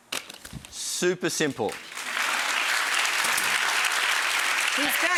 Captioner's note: audience clapping